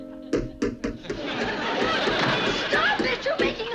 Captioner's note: hammering